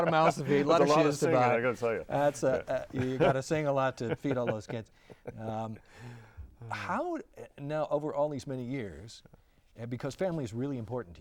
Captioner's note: laughing; laughing